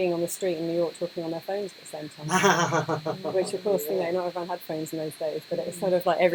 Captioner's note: laughter